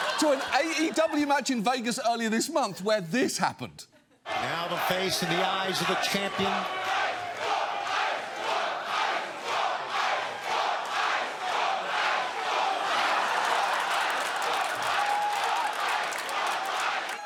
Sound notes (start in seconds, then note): 7.5 chanting; 13.8 chanting continues; 13.8 studio audience laughs